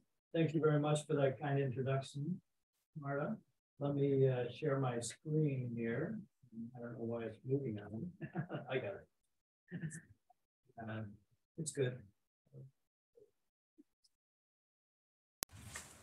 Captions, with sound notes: - Thank you very much for that kind introduction, Marta. Let me share my screen here. I don't why it's moving now. (laughing) I got it. It's good.